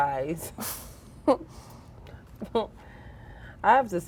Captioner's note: girls laughing